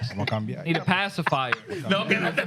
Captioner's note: speaking Spanish